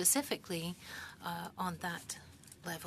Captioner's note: speaking French